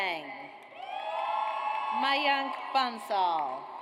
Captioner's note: audience cheers